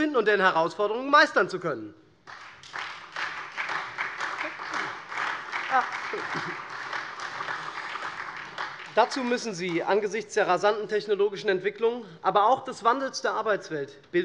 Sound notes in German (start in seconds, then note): 2.2 Beifall SPD